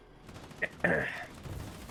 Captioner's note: clears throat